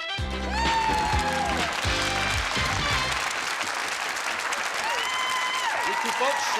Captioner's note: applause and cheering